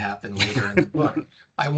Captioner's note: laughing